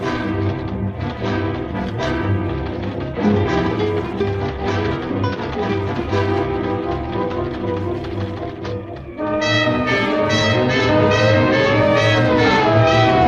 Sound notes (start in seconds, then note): 8.7 siren wails